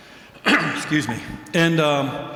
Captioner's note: coughs